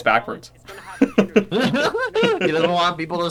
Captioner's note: both laugh in Apple shaming